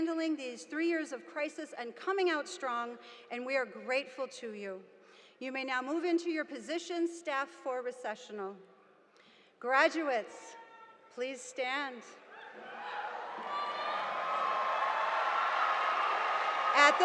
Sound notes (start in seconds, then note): 12.2 students cheering